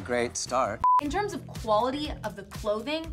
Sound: beep

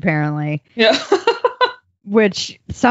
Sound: laughing

